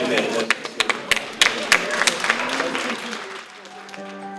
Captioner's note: applause